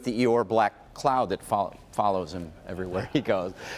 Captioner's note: laughter